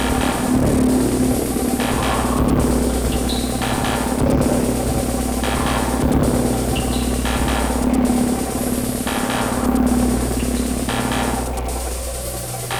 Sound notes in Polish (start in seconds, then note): 10.2 Dudnienie cichnie; 12.0 Ciągłe, ciche buczenie